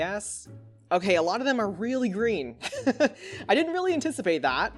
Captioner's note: laughs